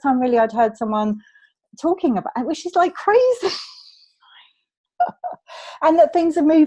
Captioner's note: laughs